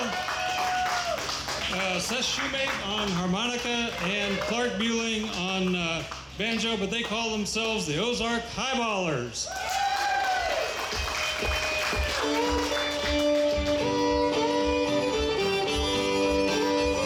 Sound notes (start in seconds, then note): 0.0 audience cheers; 9.4 audience cheers; 9.5 audience applauds